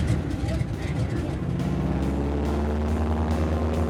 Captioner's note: engine whirring